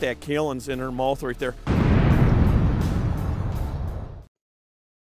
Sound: explosion

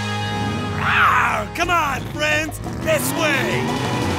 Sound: roars

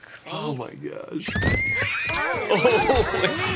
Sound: screams

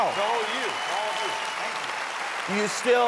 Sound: cheering

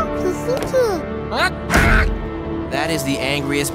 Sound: babbles; angry outburst

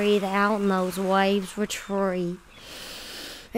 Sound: tshh

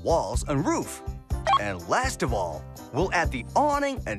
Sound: beep

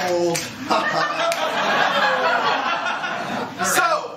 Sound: laughter

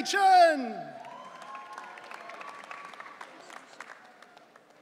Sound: audience cheering

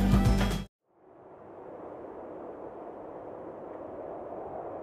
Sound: wind whistling

